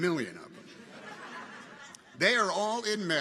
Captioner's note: audience chuckles